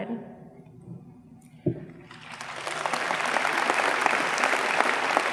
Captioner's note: audience applauds